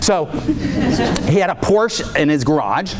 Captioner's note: audience laughing